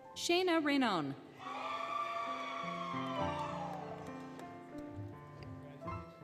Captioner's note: applause, Cheering, Music